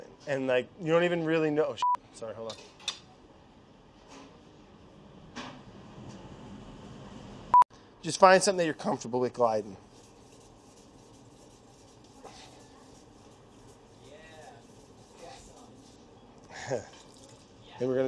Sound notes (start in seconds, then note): 1.8 beeps; 7.5 beeps; 9.9 knife scraping